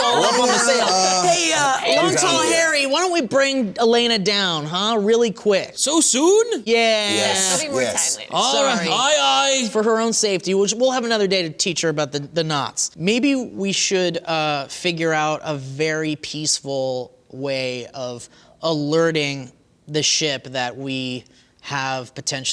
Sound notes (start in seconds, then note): 1.1 laughter